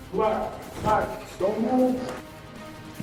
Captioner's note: yells